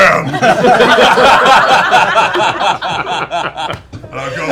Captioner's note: laughter